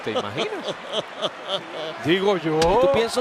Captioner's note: laugh